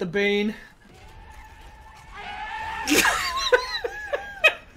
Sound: Bane Noises

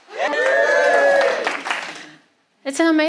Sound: crowd cheer

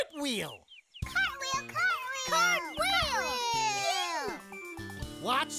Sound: all repeating excitedly

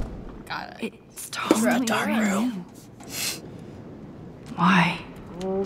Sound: whispers

